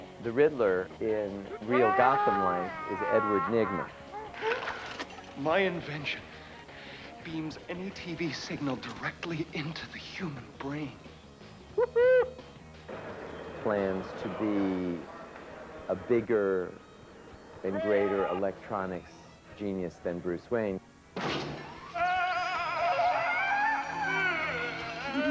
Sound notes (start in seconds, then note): 11.6 hooting; 21.7 maniacal yelling and laughing